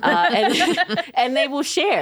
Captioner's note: both laughing